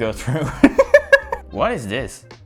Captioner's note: laughs